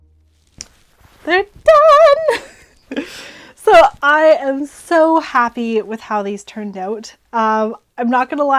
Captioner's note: sing-song; normal voice